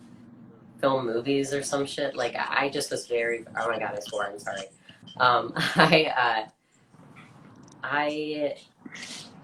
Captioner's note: laughs